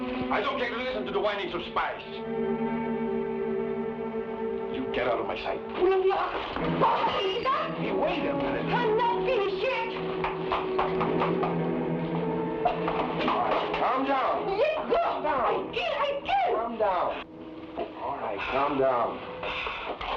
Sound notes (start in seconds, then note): 0.0 woman speaking in Tagalog; 6.0 woman speaking in Tagalog; 6.8 food crashes; 10.0 heels clack